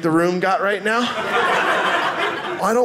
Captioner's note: audience laughing